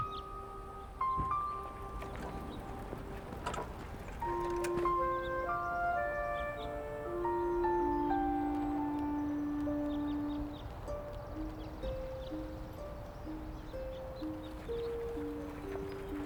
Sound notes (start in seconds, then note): 9.0 birds chirping; 9.0 gentle music